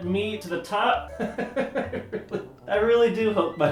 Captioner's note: laughs